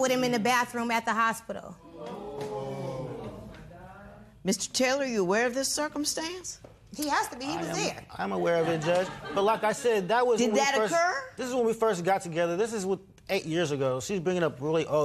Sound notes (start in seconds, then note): 1.8 audience "Oohs"